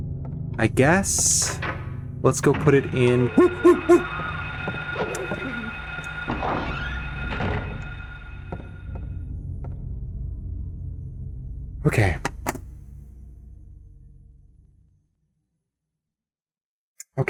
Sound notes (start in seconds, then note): 3.3 monkey panic